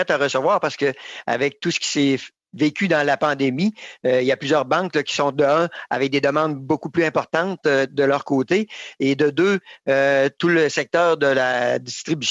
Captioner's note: speaking French